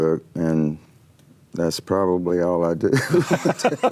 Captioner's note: laughing